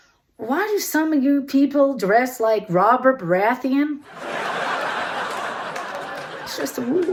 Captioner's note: audience laughter & applause